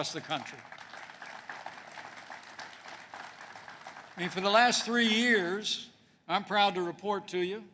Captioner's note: applause